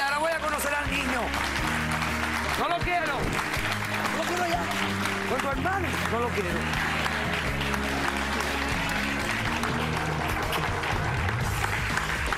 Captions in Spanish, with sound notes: HE DICHO, CASO CERRADO. Y AHORA VOY A CONOCER AL NIÑO. [APLAUSOS] NO LO QUIERO. NO LO QUIERO ALLÁ. CON TU HERMANO, NO LO QUIERO.